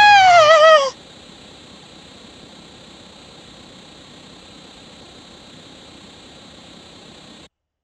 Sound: static

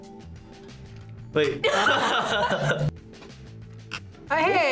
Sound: both laugh

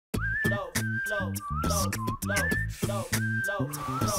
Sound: energetic beat boxing

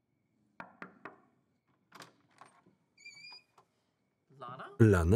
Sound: knocking on door

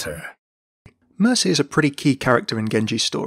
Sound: voiceover

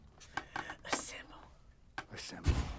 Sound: whispers

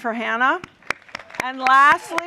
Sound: applause

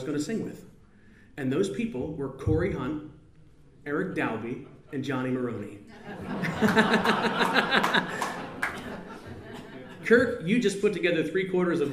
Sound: laughs

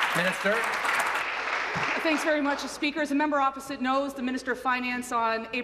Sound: applause

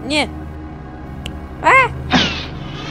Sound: pop

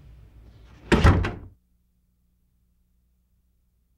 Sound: door thuds

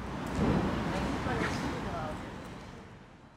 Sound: park ambience

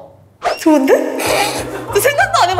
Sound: pffft

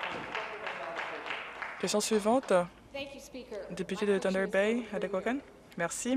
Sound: applause

